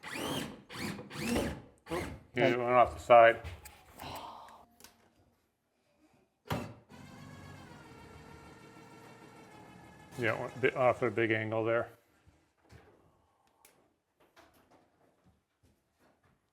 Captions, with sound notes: (drilling sounds) - Oh, you're going off the side. (drilling sounds) You went a bit off at a big angle there.